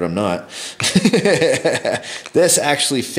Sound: laughs

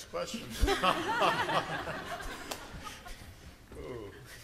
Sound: laughter

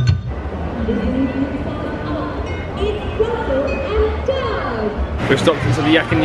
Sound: cast member's voice recedes

